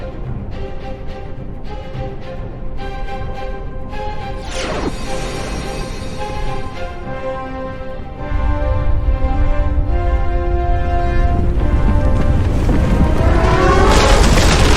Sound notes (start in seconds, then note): 0.3 dramatic orchestral music continues; 4.7 wind whooshing; 9.1 low rumbling